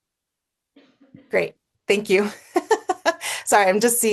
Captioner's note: laughs